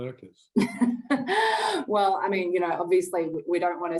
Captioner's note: laughs